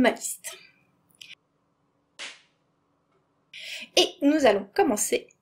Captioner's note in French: Clap